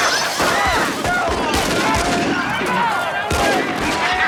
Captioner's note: plates shatter; guns fire; townsfolk scream; townsfolk yell; gun fires; Twister laughs